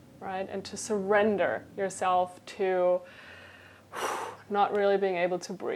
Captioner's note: blows out breath